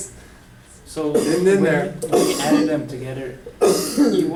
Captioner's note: voiceover